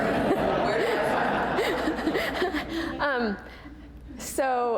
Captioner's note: laughter